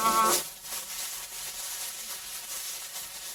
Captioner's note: static